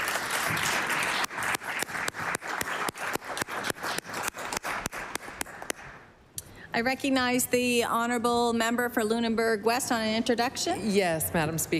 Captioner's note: applause